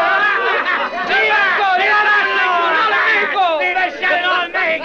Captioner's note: Spanish spoken audio